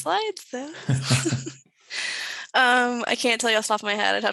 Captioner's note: chuckles